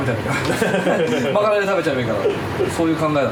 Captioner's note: laughs